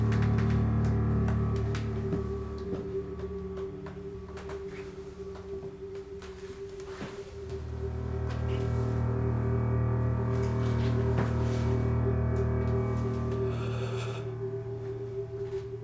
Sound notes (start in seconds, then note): 0.0 stairs creaking; 0.0 stirring music continues